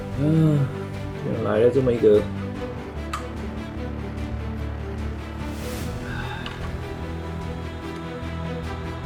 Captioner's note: sigh